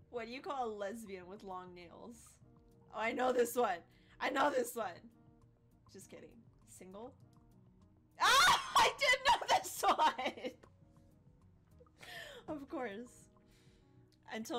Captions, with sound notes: Oh I know this one, I know this one! Just kidding, single? "Single!" (Laughs) I did know this one! Of course.